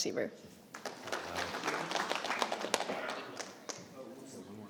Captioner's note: audience applauding